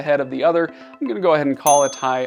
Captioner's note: bell dings